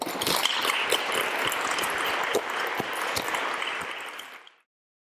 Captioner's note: applause